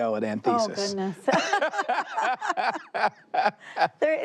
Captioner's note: both laughing